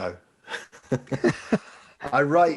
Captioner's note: laughing